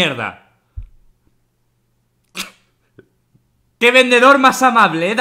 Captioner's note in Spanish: Partiendose de risa